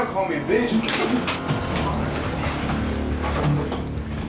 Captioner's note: grunting